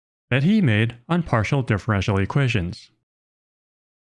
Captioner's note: none